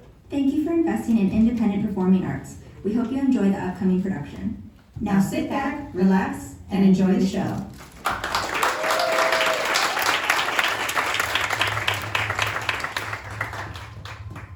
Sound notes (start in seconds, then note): 7.8 applause; 14.0 eerie Music